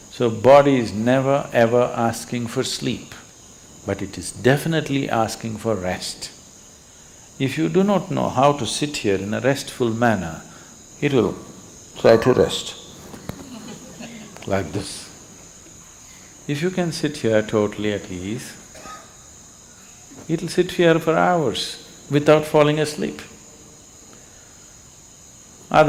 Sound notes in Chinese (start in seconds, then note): 13.2 笑聲